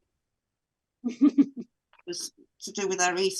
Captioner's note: laughs